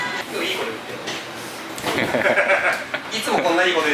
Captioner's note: laughs